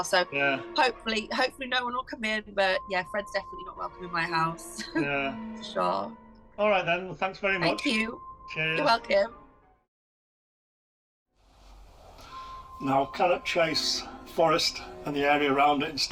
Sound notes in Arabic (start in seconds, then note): 4.8 يضحك; 12.2 موسيقى إلكترونية غريبة